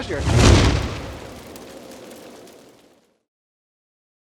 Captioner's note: logo whooshing